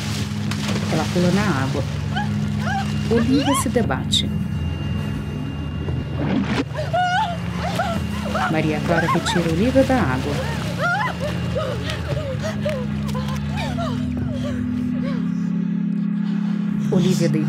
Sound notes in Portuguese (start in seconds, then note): 0.1 Som de água; 2.6 Olívia grita